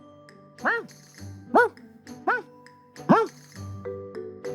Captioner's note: barking